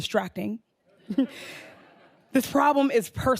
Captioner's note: audience laughing